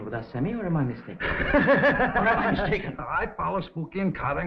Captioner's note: Sammy laughing